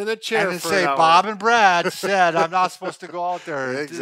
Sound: laughs

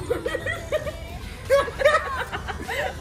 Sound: collective cackling

